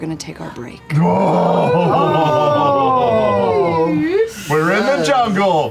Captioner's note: oohing